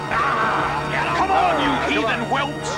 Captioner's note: Philistines growling